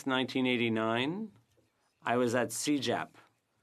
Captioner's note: speaking French